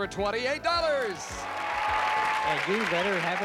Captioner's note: applause